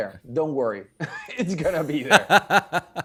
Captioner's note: chuckles; laughing